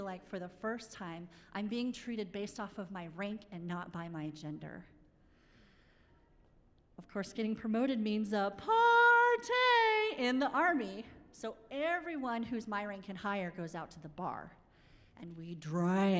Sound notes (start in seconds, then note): none